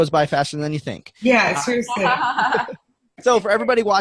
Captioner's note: laughing